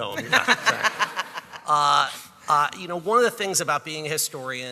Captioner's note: audience laughing